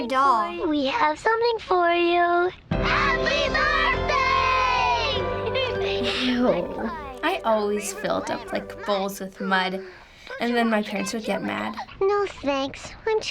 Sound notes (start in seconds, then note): 5.1 raspily